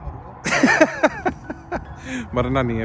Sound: laughing

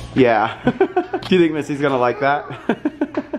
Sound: laughs; laughter

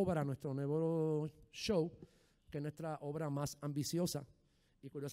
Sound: speaking in foreign language

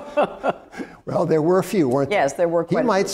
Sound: laughs

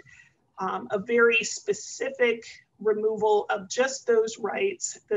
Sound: none

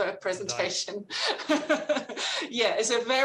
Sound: laughs

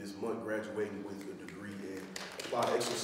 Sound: audience applauding

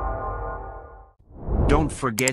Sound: wind Blow's

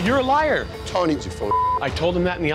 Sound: beep

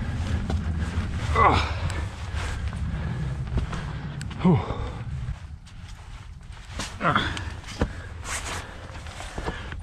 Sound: climbing noises

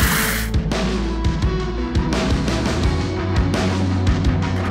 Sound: upbeat music; splash

